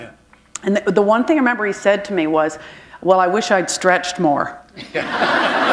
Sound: laughter

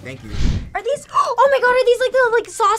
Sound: gasps

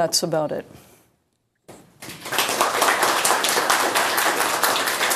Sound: class applauds

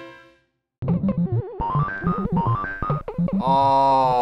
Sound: quirky interlude; video game beeping

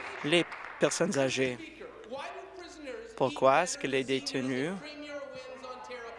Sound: applause

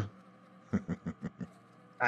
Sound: giggles

